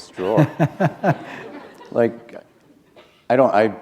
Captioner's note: chuckle